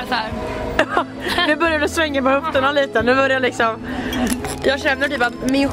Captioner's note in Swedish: Skratt